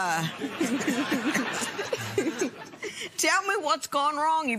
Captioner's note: laughter